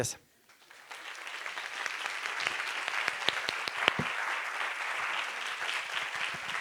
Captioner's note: applause